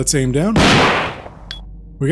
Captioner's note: gunshot